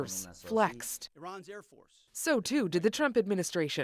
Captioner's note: speaking alternate language